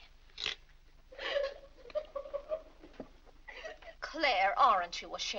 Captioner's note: Annie crying